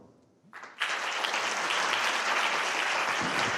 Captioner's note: applause